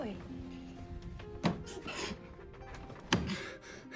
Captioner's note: grunting